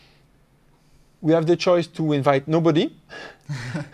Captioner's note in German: lacht